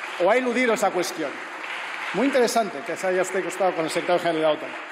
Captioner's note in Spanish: Aplausos